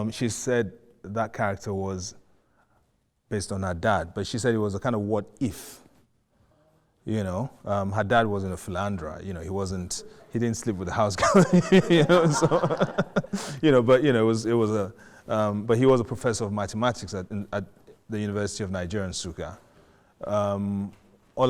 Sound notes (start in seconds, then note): 11.1 laughing